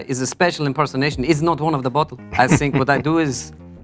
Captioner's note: josé laughs